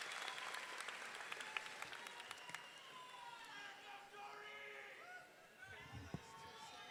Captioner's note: audience cheering; audience clapping